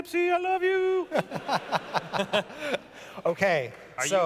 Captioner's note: laughter